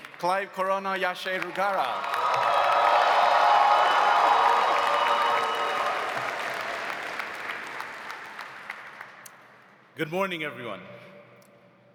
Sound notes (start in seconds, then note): 1.3 audience applauding; 1.6 audience cheering